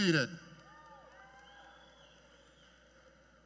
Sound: cheers and Applause

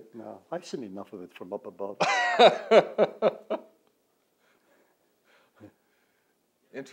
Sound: laughter

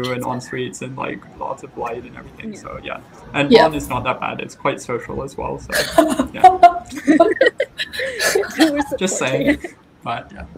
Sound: & I laugh

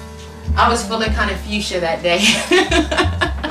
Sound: laughs

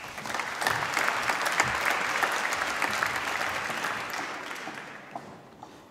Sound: applause

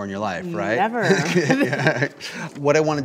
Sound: laughs

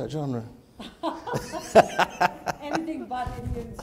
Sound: laughter

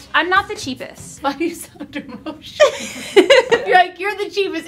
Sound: laughs

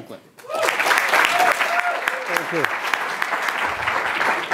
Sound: audience clapping

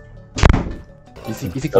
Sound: someone slammed a door

